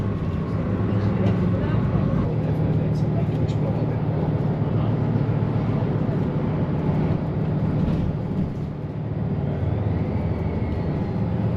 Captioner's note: sound of bus driving